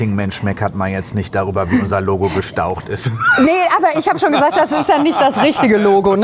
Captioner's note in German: gelächter